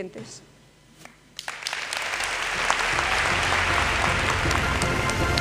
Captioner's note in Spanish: Aplausos